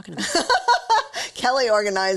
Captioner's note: laughs